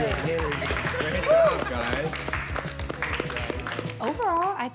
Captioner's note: applause